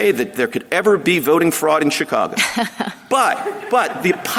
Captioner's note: laughter